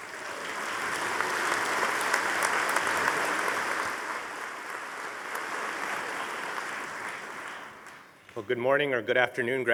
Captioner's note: audience applauding